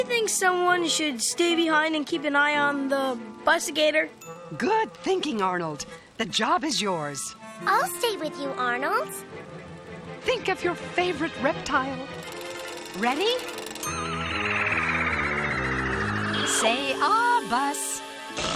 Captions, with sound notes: SOMEONE SHOULD STAY BEHIND AND KEEP AN EYE ON THE BUS-IGATOR? - GOOD THINKING, ARNOLD. THE JOB IS YOURS. - I'LL STAY WITH YOU, ARNOLD. - THINK OF YOUR FAVORITE REPTILE. READY? [buzzing] SAY "AH," BUS.